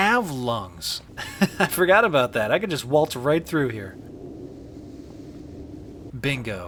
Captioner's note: chuckles